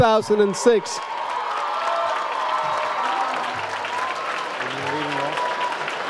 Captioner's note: audience applauds